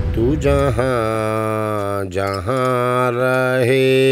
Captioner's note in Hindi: none